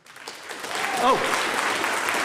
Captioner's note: audience applauding